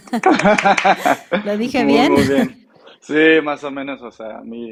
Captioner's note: claps